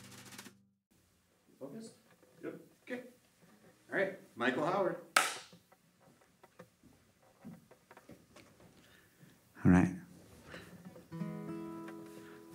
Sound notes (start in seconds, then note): 5.1 slate Claps